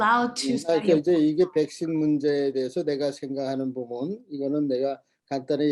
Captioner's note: speaking Korean